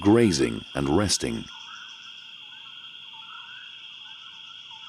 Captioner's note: wildlife chirping